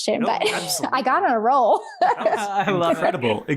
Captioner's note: laughs